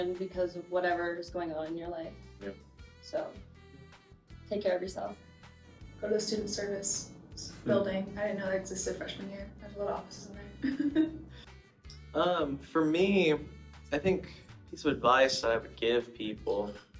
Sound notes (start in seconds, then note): 10.5 chuckles